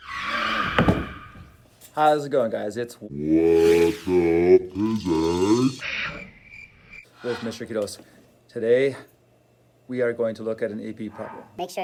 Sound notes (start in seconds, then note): 0.0 screech!; 5.7 crickets